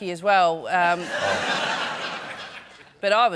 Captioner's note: laughter